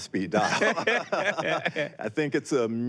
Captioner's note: both laughing